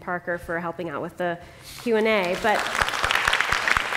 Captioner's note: applause